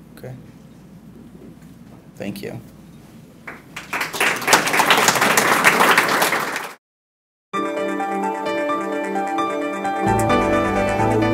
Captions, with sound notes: Okay. Thank you. (audience clapping) (upbeat music)